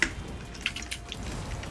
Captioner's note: nom